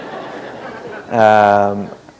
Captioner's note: laughter